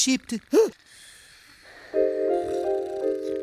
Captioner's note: snoring